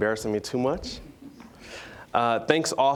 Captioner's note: all chuckling